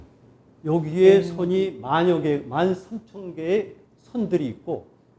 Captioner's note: speaking in Korean